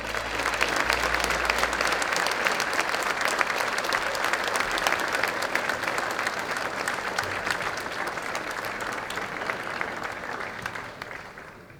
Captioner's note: applause